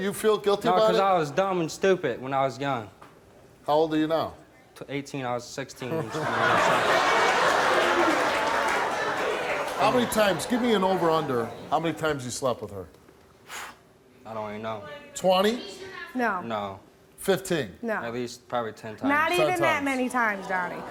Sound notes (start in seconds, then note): 6.3 audience shouting; 13.5 scoffs